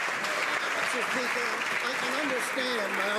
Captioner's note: some Applause